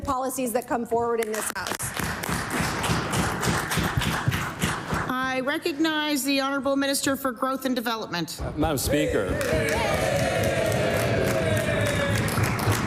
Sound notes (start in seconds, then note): 4.8 applause